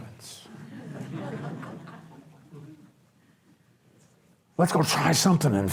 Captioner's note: audience laughs